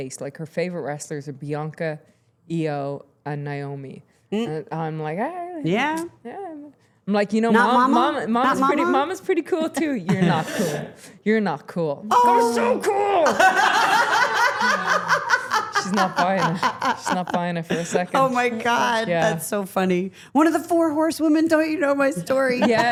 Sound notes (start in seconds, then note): 13.2 Steph laughing